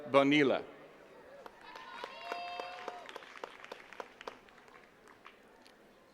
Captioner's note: attendees cheering and clapping